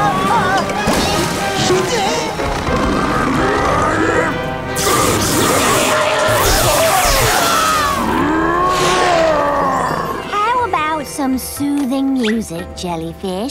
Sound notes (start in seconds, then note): 1.7 growling; 5.4 screaming; 7.6 roaring